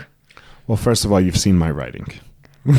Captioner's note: laughs